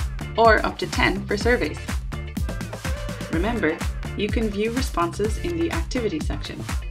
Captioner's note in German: none